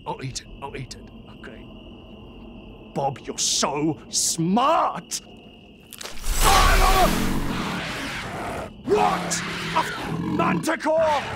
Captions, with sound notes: I'll eat it, I'll eat it, okay Bob, you're so SMART! AAARRGHAGAHAGAHGHAHH!!! *SCREECHING* WHAT??! A F***ING MANTICORE??!